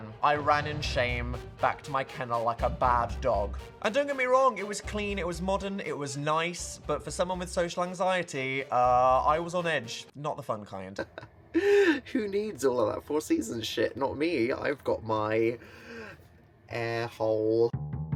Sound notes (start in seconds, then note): 11.0 Dan chuckles